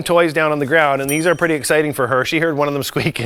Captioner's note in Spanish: campanas sonando